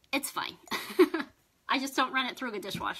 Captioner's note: laughs